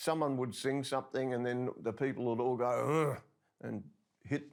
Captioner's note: softly grunts